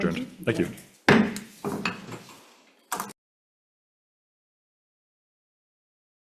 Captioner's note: gavel pounds